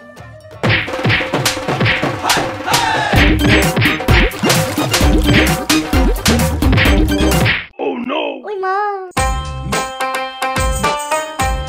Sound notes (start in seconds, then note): 0.7 beating